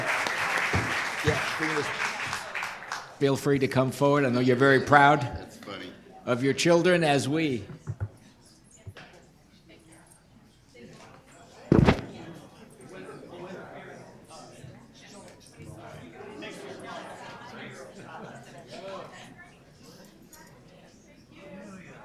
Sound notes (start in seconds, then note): 0.0 applause; 8.3 group chatter